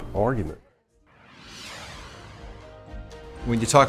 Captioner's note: air whooshes